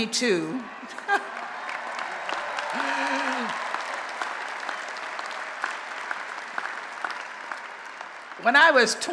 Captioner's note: applause and Cheering